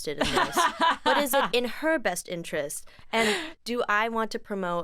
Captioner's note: laughs